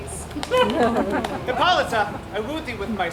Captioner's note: audience laughs